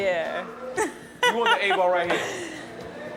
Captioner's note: laughs